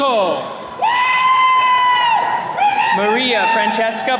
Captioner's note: attendees cheering